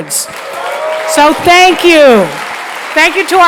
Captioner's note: applause